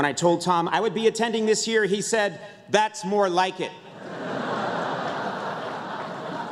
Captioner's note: laughter